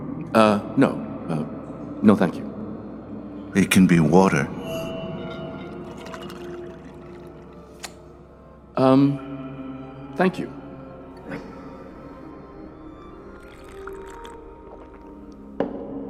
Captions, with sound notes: Uh, no no… No, thank you... It can be water… (liquid pouring) Um… thank you... (sipping and swallowing)